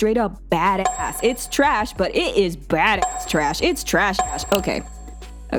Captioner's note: chiming